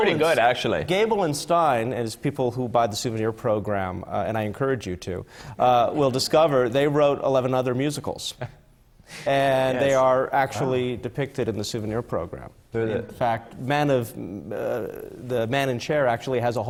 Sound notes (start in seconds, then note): 8.7 laughs